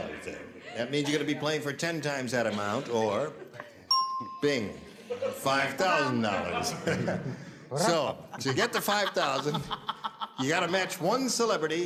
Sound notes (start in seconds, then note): 3.9 bell dings; 6.4 chuckles